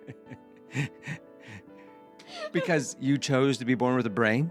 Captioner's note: laughing